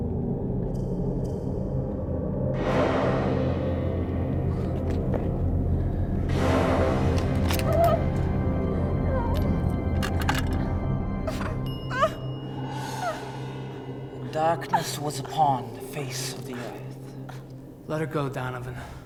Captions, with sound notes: (gun clicks) (Christine whimpers) - Darkness was upon the face of the Earth. - Let her go, Donovan.